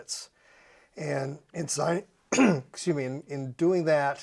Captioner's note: clears throat